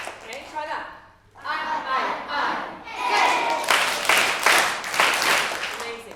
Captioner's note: teacher claps a rhythm; clapped rhythm